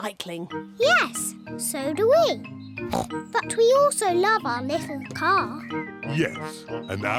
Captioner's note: snorts